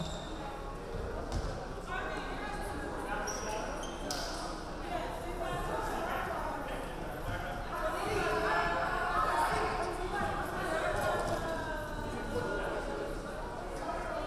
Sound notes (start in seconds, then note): none